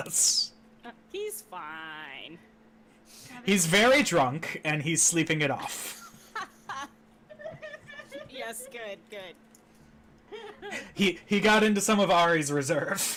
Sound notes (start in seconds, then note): 7.2 laughing; 10.2 laughing